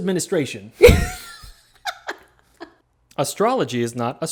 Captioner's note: laughing